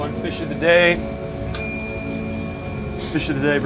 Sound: bell dings

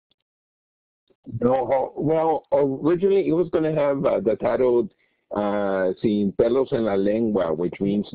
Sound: Spanish

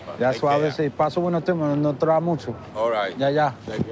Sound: speaking spanish

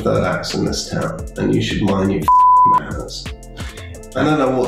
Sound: beep

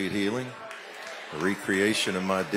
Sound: audience exclaims and applauds

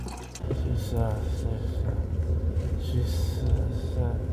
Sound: Romero mumbles

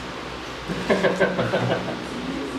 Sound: laughing

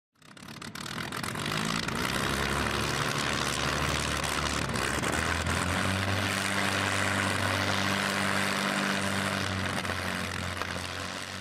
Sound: aircraft engine starting and fading into the distance

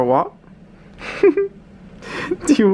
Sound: chuckles

